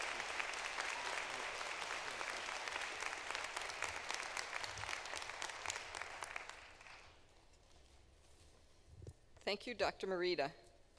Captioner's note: applause